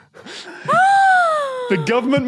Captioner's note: gasps loudly